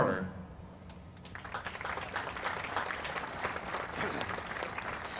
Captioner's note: audience applauds